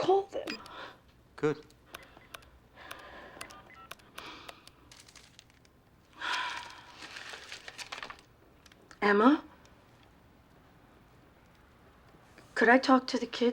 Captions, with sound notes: Good. (DIALING) (SIGHS) (SIGHS) Emma? Could I talk to the kids?